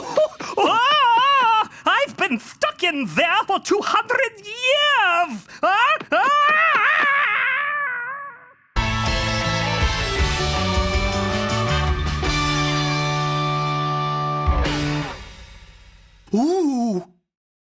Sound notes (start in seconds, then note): 0.1 screaming; 6.1 screaming; 8.8 upbeat music